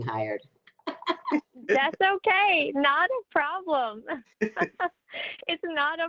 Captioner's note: laughs